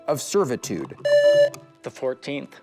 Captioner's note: buzzer